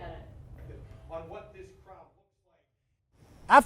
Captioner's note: video playing in background